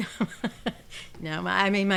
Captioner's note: laughing